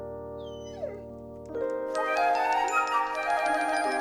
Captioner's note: Patsy whining